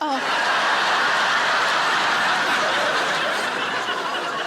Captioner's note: audience laughing